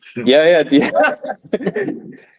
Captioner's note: laughter